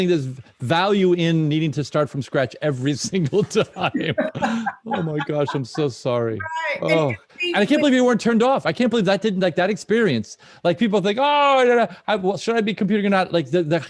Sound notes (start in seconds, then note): 3.0 laughs